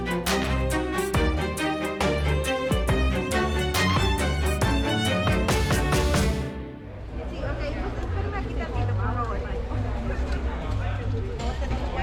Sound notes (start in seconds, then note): 7.1 chatter